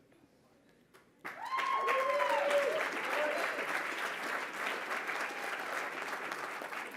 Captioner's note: applause